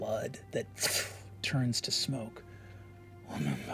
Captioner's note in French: crépitant